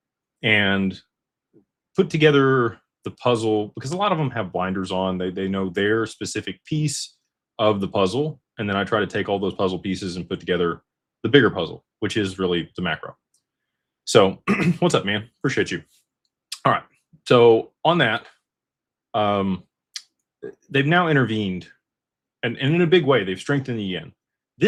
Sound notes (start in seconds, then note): 14.4 clears throat